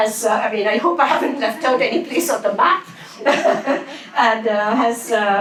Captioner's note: laughs